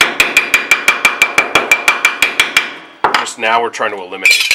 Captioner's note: hammering on metal